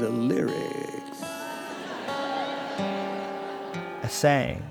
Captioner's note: crowd laughs, guitar strums